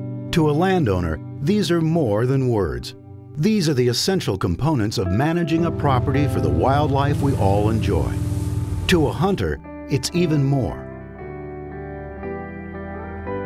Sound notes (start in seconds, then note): 5.6 ATV engine rumbles